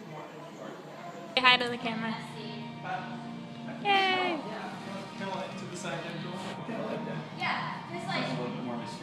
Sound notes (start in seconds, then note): 5.4 group chattering